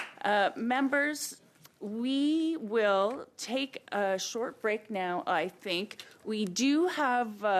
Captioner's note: applause